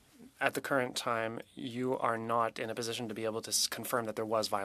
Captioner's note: speaking French